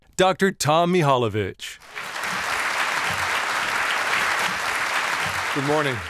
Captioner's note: applause